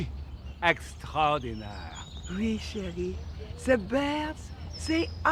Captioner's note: Pauline and Jean-Jacques speaking in French